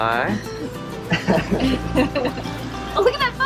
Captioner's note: laughter